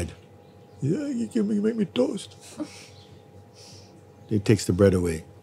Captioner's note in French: voix faible